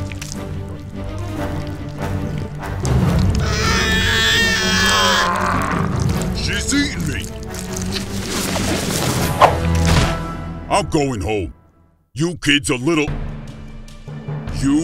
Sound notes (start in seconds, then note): 3.0 wailing; 5.1 grunting